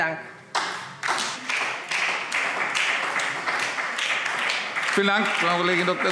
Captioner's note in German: Beifall SPD